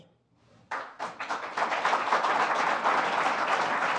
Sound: applause

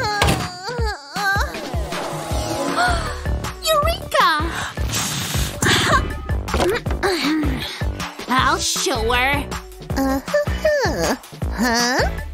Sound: spits out and burps

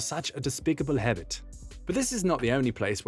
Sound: said in a Swiss accent

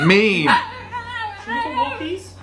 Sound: dog barking drowning out man

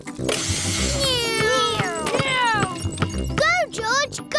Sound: whirring

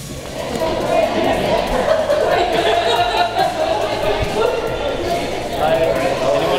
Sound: laughter

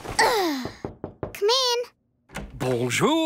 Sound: knock on door

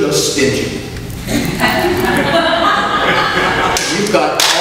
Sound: audience laughs

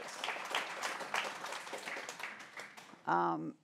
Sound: applause

